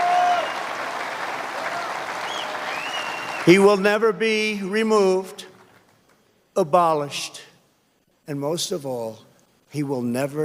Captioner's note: cheers and applause